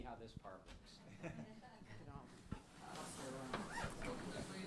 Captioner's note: laughter